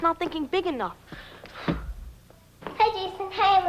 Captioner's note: football thuds